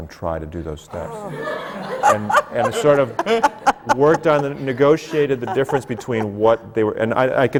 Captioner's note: laughter